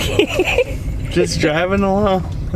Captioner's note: laughs